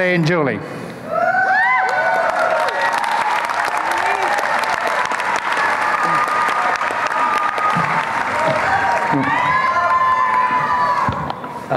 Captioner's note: applause and cheering